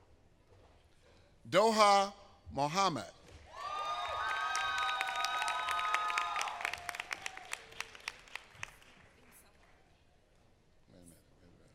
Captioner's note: applause